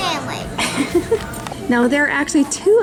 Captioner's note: laughs